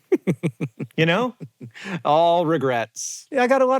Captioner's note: HANK chuckles